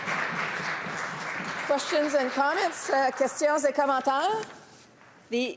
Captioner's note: applause